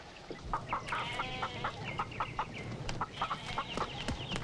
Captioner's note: chickens clucking; goat bleating; feet pattering